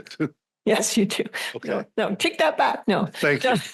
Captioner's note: laughter